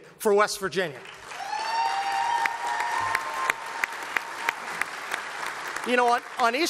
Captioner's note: applause